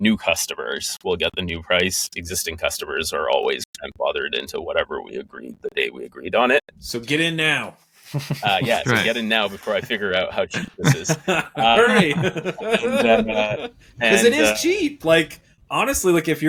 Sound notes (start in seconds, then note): 12.8 laughing